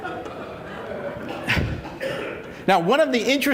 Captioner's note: laughter